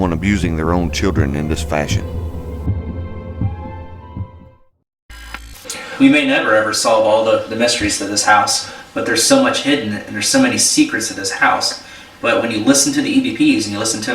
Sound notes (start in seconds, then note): 3.4 heartbeat beating; 5.2 static fizzing